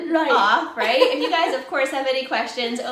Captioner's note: laughing